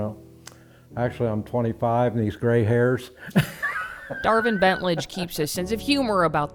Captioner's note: laughs